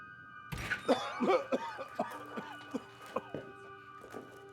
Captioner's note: Darlus coughing